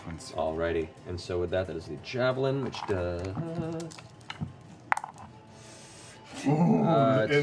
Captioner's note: pained inhale